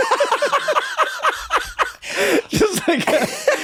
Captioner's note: guys laughing